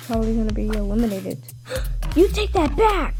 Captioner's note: gasp + shook